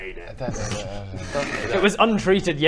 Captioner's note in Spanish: murmullo triste